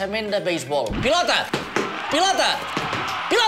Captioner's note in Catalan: cridòria de fons